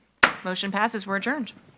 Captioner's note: gavel clinking